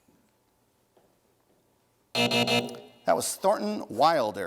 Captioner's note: buzzing